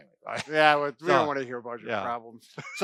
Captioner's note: laughing